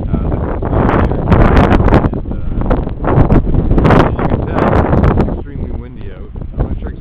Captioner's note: wind Noise Too Loud